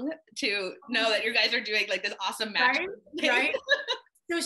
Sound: laughs

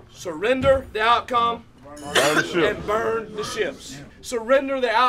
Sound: voiceover

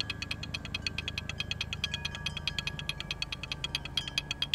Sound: wind chimes chiming

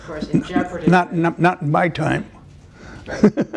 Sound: laughter

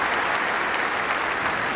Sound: applause

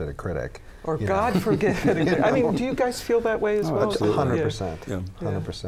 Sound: laughter

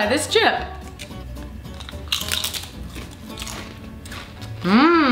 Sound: chewing noises

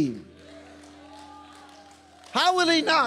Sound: congregation cheering

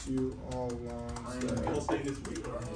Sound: murmuring

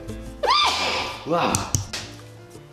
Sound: high-pitched sneeze

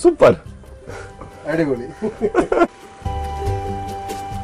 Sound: laughter

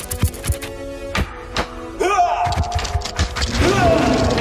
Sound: scorpions scurry; bones clap; scorpions scurry

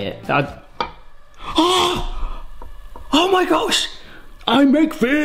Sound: gasps

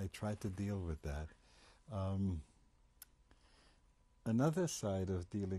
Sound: pauses for 3 seconds

